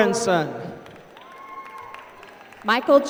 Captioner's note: applause